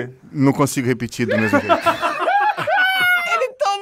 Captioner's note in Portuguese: risadas